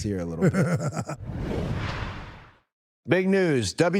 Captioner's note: Dallas laughs